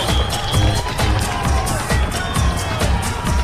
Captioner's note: audience cheering and applauding